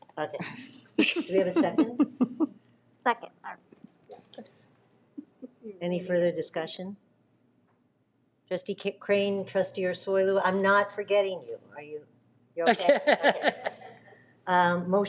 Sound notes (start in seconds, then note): 4.2 speaks faintly; 12.6 laughs